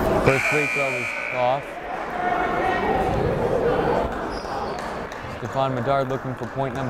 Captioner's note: buzzer blaring